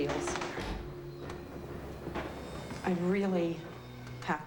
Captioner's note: wood boards rattling